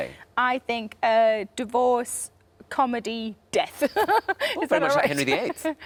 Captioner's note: laughs